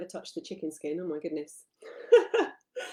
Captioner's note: laughs